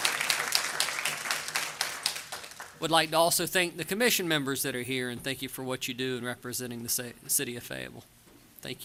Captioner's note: applause